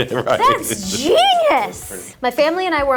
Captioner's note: Kelsey chuckling